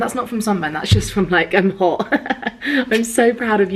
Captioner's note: laughs